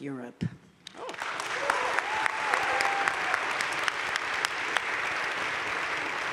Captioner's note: audience cheering and applauding